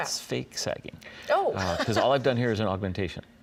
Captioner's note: laughs